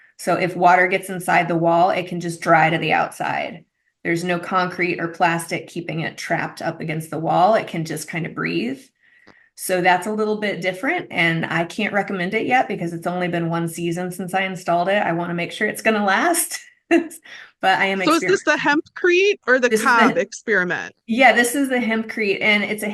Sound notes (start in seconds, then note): 17.9 laughs